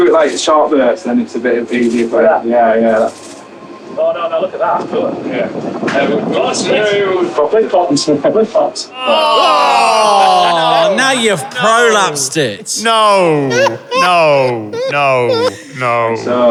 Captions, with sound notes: (group groaning) Now you've prolapsed it! No, no, no, no.